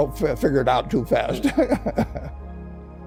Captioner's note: laughter